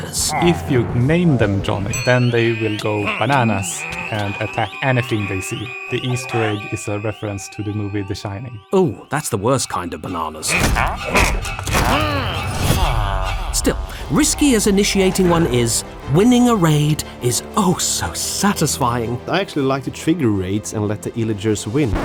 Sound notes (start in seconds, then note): 10.5 vindicator grunting